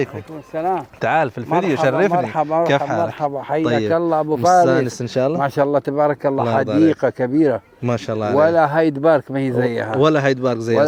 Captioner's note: Arabic